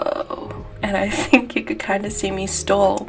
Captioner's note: laugh